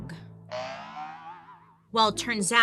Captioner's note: aubergine boinging